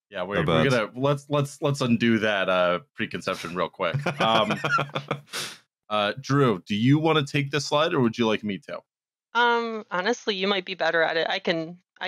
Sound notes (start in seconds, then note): 5.6 laughs